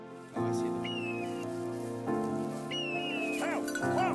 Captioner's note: soft music continues; birds chirping; shouting